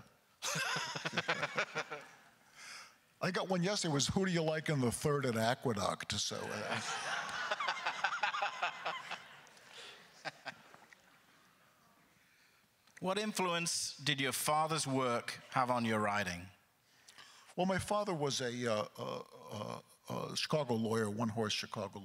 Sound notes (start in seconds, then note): 0.4 laughs; 6.4 laughing; 6.4 crowd laughter; 8.2 continued laughter